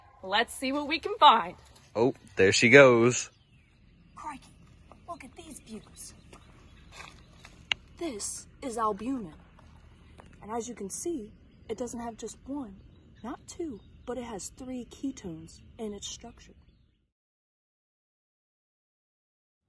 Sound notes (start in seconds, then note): 6.2 leaves crunching